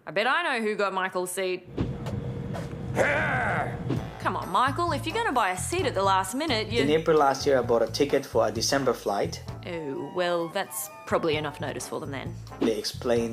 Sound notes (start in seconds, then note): 2.9 growls